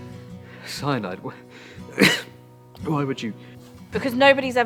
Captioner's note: coughs